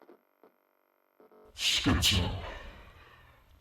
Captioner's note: sighs